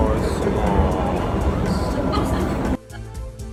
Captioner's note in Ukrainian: сміх пересічної жінки із мене